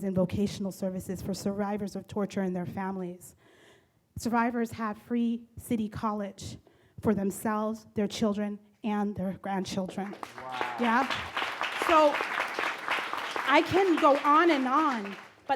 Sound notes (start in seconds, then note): 9.8 audience claps